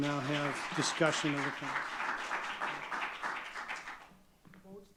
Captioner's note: audience clapping